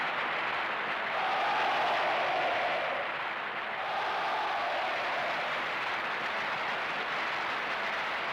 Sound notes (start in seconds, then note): 0.9 cheers and applause